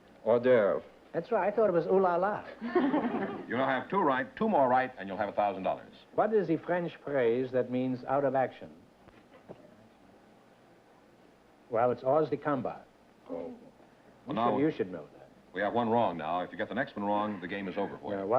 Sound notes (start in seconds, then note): 2.5 laughter; 6.1 french accent